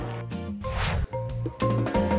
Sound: air whooshing; bright upbeat music

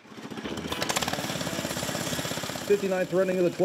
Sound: engine starts

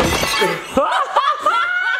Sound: glass smashing; laugh

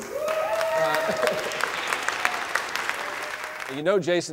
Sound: applause

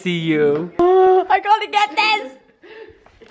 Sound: voiceover

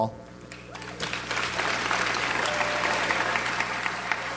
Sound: audience applauds

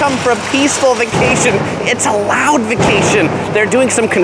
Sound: loudly drilling and pounding

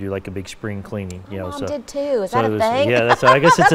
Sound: laughing

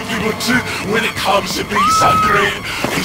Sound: screams

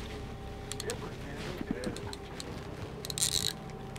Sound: trolling motor humming

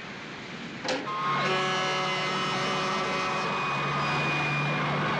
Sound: horns Blowing; sirens Wailing

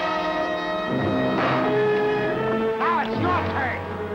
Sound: dramatic music; gun firing

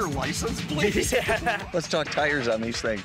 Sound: laughing

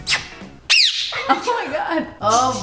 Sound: lips smacking; parrot chirping

